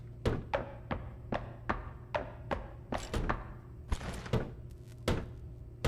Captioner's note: footsteps; door creaks